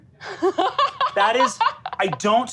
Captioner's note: laughs